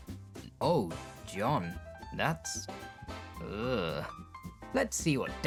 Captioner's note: disgust